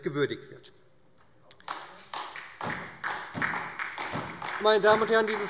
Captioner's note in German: Beifall SPD